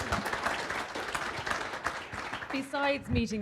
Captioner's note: applause